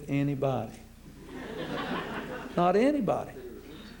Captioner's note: laughter